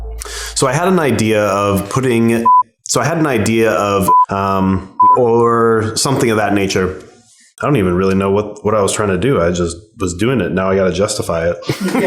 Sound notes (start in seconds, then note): 2.4 beeping; 4.0 beeping